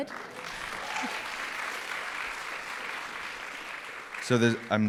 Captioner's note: applause